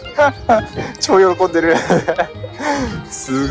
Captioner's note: laughs